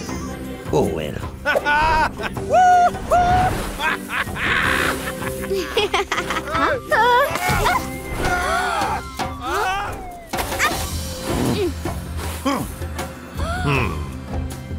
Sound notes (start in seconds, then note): 3.6 laughing; 7.9 gasping; 9.0 shouting; 12.9 gasping